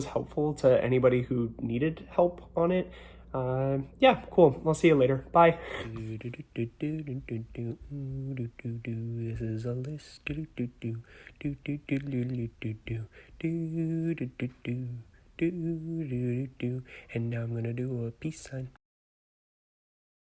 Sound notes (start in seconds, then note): 6.1 humming; 9.4 singing; 10.4 humming